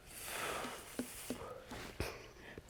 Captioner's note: sighs